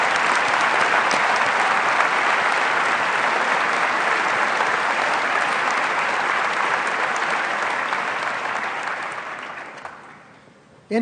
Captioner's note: applause